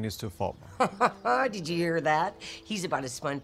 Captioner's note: chuckles